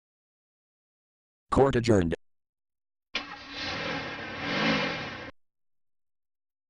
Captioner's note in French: vrooms de voiture de police